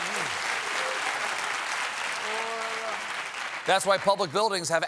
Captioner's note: applause